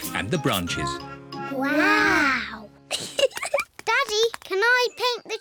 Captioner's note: both giggle